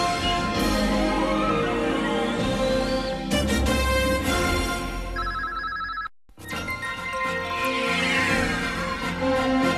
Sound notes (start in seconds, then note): 5.2 communication signals dialing; 6.4 orchestral music continuing